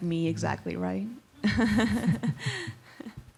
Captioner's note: laughs